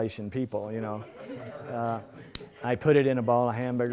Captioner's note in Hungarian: Nevetés